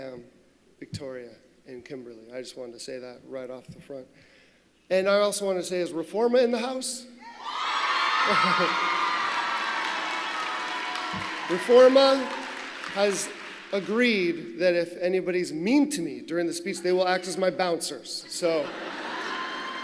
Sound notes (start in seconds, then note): 12.8 cheers